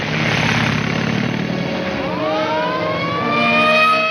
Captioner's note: siren wailing